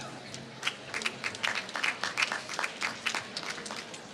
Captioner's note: applause